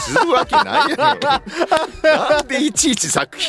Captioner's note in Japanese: 笑い